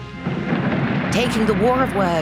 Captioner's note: audience applauds